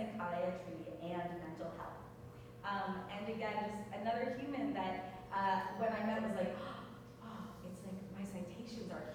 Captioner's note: gasp